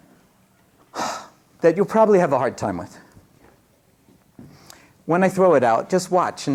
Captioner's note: sighs